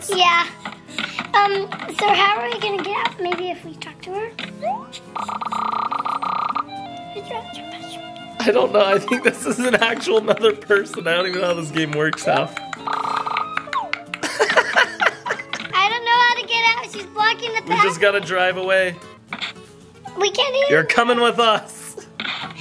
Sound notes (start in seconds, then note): 14.1 laughs